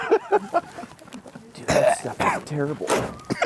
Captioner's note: laughing; caughing